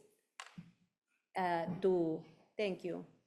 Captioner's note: keyboard clacking